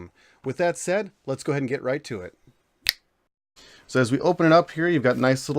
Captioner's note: snaps fingers